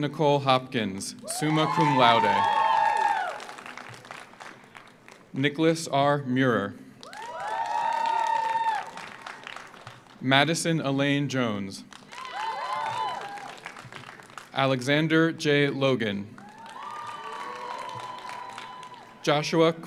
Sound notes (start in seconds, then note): 1.2 audience cheers; 1.4 audience applauds; 7.0 audience applauds; 7.0 audience cheers; 11.9 audience applauds; 12.1 audience cheers; 16.3 audience applauds; 16.4 audience cheers